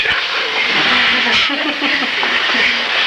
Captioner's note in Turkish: kahkahalar